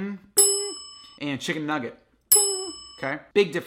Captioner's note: mimics bell; chime